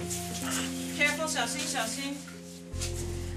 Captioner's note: speaking Chinese